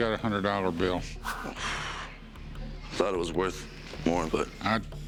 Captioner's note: exhales